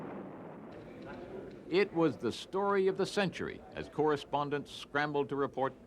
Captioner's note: explosions